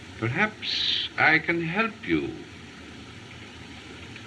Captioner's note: none